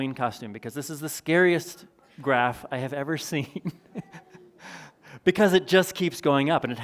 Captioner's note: chuckles